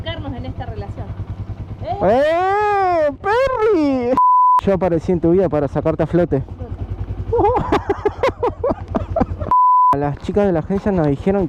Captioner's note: laughs